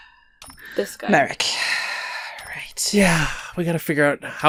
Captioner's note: sighs